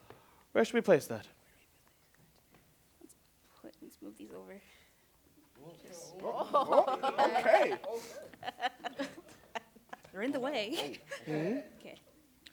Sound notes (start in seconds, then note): 6.2 laughter